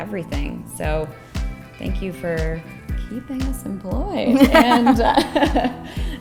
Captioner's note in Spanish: se ríe